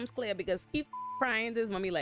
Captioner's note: beep